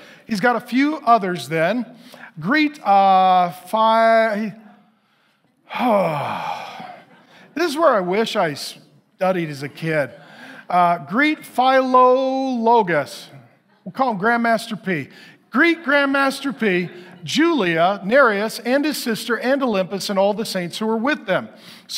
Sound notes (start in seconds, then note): 5.6 sighs; 5.7 congregation laughing